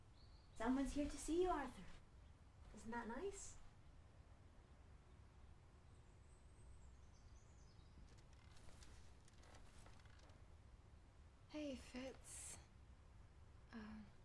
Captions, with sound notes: Someone's here to see you Arthur. Isn't that nice? [birds chirping] Hey, Fitz.